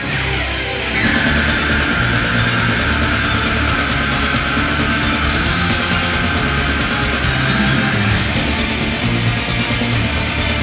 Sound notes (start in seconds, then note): 0.0 energetic metal music; 1.0 screaming